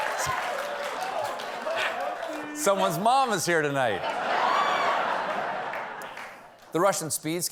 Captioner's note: laughter